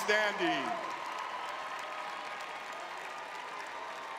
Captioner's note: cheering; clapping